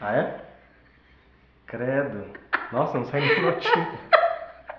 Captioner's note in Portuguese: risos